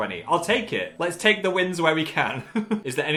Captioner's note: laughs